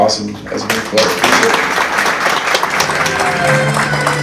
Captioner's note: crowd claps; ceremonious music